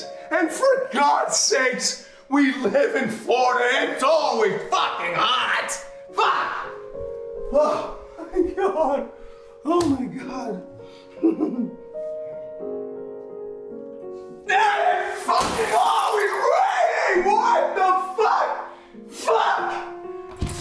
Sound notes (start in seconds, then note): 5.3 gentle music begins; 15.7 ceramic mug breaking